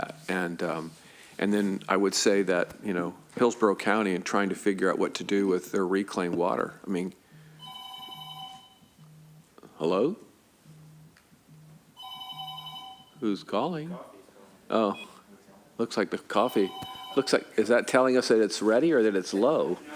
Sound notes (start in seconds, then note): 7.6 phone ringing